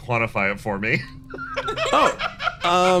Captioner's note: laughs